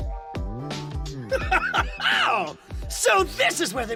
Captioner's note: Giovanni laughs